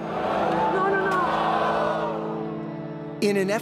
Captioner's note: audience groans